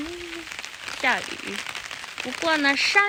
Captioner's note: raining